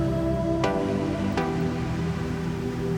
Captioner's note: none